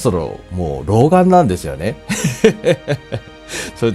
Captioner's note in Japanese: 苦笑